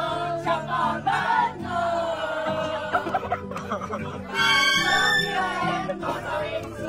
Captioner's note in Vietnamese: Tiếng cười